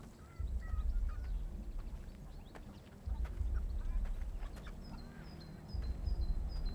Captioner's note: birds chirping; gentle tense music